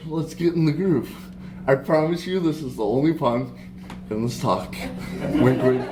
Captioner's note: laughter